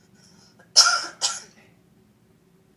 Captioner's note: coughs